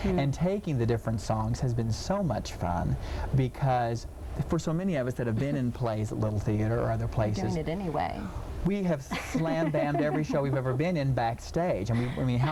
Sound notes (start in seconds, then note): 9.1 laughing